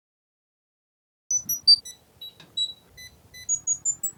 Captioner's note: scales beeping a tune